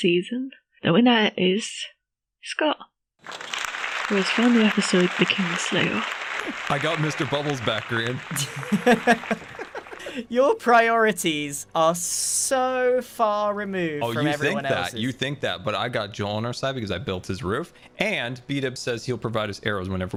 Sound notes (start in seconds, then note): 9.9 laugh